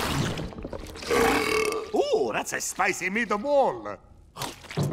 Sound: belching

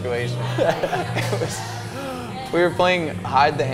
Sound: both laugh

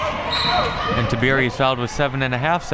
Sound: whistle

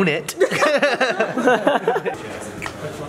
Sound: laughter

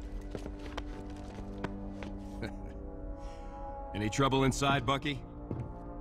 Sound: none

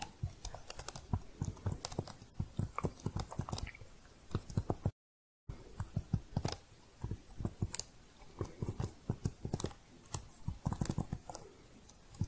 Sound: typing

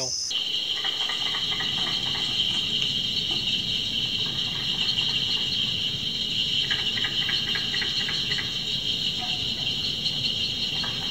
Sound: Audio of carpenter frogs calling

